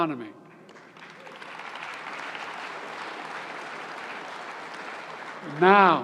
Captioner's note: applause